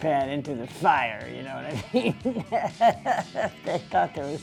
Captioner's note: laughs